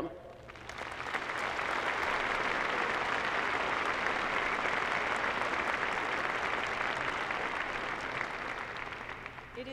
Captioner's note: applause